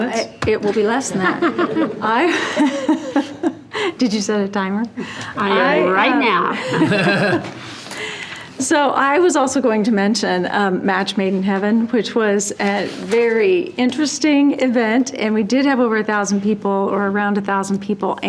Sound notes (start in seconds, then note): 1.2 trustees laughing; 1.2 laughs; 6.4 trustees laughing